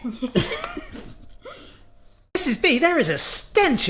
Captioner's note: giggling